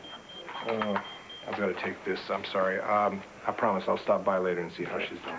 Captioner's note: pager beeps